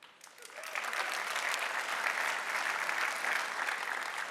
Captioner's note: audience applauding